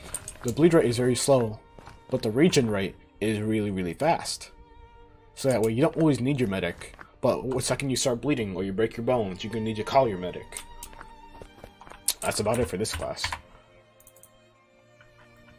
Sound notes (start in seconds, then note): none